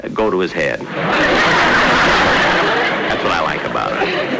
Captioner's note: audience Laughing